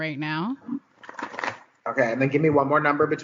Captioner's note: shuffling